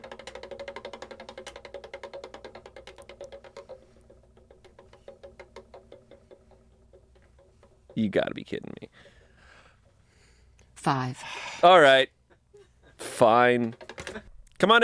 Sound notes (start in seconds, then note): 0.6 wheel clicking